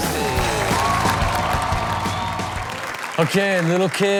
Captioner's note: crowd applauds